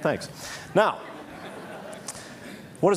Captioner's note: Laughter; 笑聲